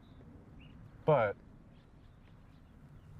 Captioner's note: none